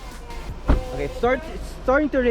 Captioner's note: door thuds